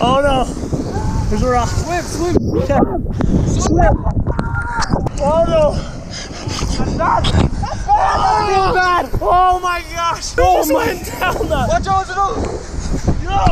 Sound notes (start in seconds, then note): 7.1 shouting